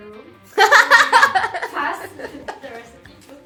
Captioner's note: evil laugh